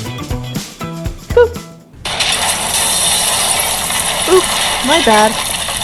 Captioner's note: explosion